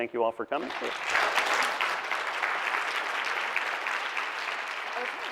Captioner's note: audience clapping